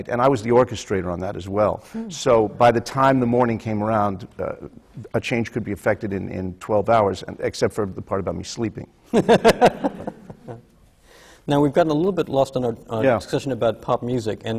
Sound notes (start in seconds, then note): 9.1 laughter